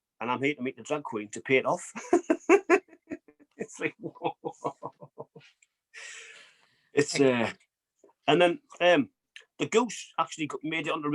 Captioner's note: laughs